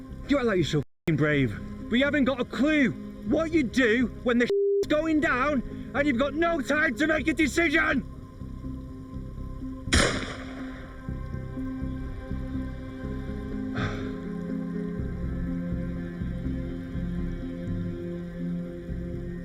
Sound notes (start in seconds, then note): 9.9 gun bangs; 13.8 Adrian sighs